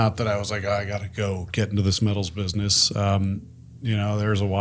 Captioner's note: none